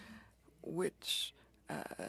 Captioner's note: speaking French